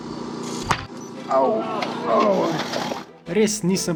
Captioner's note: the sound of the shot